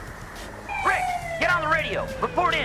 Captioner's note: siren alarming